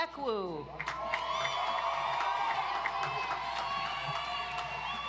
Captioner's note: audience applauds